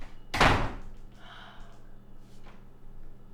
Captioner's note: door slams; Jane sighs